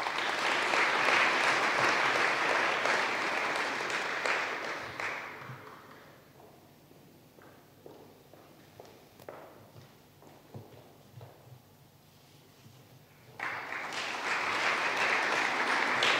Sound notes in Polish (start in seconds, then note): 0.0 oklaski